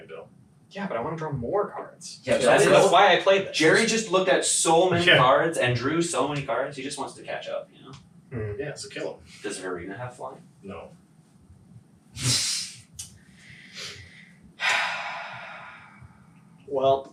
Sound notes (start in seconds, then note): 14.6 sighs